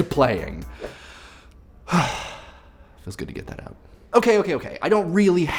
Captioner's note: breathing deeply